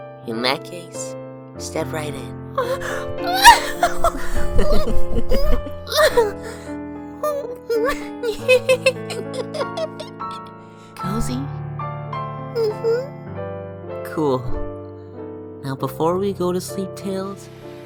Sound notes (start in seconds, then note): 3.2 two brothers laughing together; 7.2 giggling